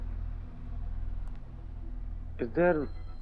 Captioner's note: bell ringing